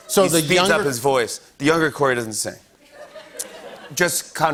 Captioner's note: laughter